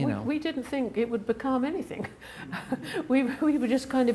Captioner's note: chuckles